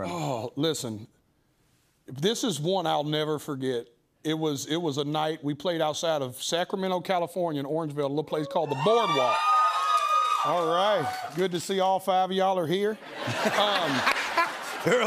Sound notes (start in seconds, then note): 8.5 cheering; 13.0 laughter